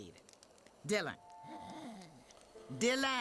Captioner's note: Dylan snores